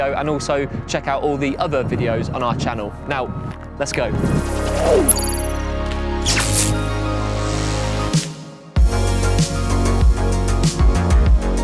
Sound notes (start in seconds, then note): 5.0 laser beeping; 6.2 electricity crackling; 8.8 upbeat music